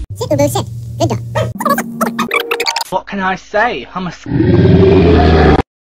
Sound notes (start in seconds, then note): 4.2 demonic roaring